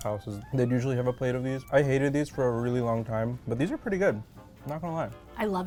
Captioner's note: none